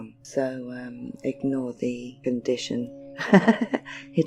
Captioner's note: laughs